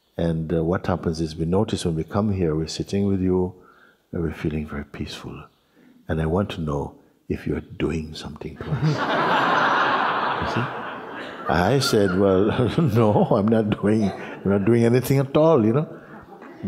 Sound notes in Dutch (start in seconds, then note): 8.6 gelach